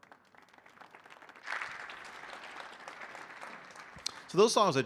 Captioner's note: audience applauding